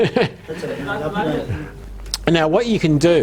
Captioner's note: host laughing; audience replying